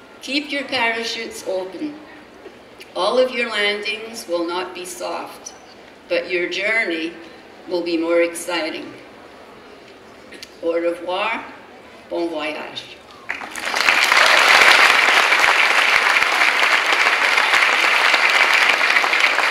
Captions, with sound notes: Keep your parachutes open. All of your landings will not be soft but your journey will be more exciting. Au revoir and bon voyage. (clapping)